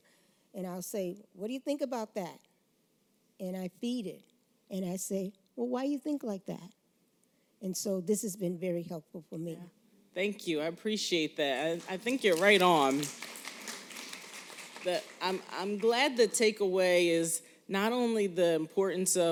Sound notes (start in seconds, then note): 11.5 applause